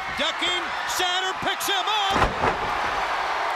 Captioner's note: crowd chatter